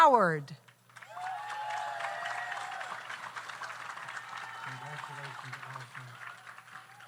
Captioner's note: audience applauds; audience cheers